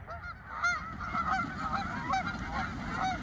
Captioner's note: geese quacking